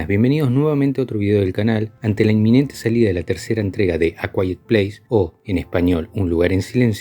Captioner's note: in Spanish